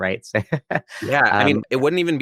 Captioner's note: laughs